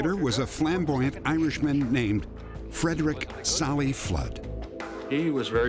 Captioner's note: none